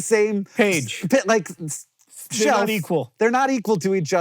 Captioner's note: stuttering